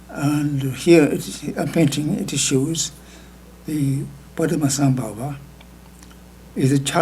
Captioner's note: speaking tibetan